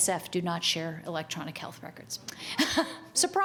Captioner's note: chuckles